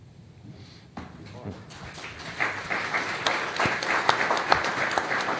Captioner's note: applause